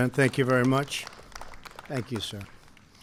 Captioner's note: applause